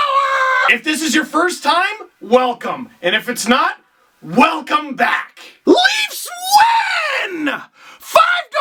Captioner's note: scream